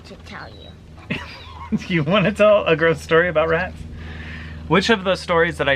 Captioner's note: chuckles